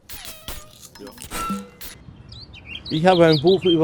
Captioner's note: birds chirping